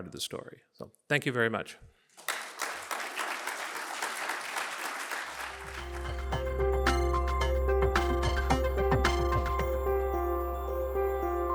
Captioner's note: applause